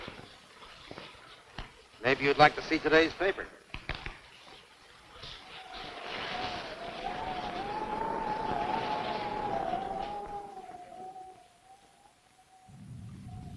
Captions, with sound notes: - Maybe you'd like to see today's paper. (wind howling) (thunder rumbling)